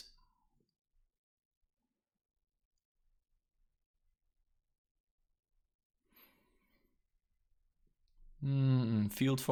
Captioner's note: even stranger moment of silence